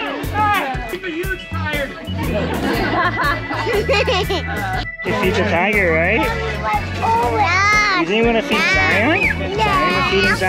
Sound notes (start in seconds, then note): 2.2 laughs